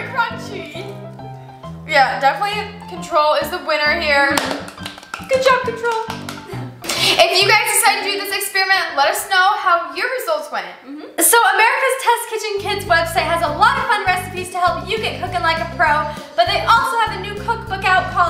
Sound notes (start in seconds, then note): 4.2 hands clapping